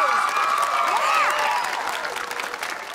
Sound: cheering

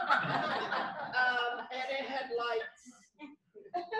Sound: laughter

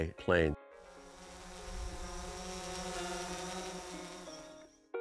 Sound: drone whirs; peaceful guitar music

